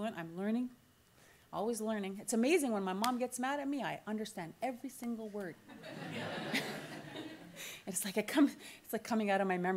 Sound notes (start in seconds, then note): 5.8 audience laughter